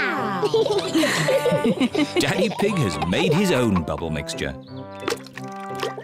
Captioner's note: all laugh